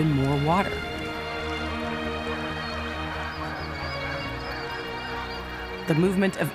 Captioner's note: birds squawking